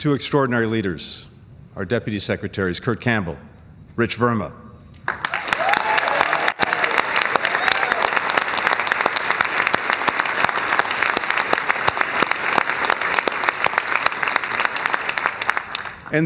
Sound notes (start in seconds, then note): 6.5 cheers and applause; 15.0 cheers and applause